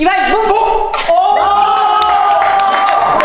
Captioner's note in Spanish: aplauden